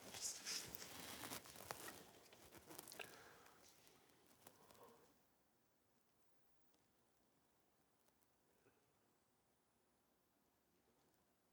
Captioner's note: silence